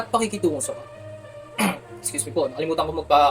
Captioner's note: ehem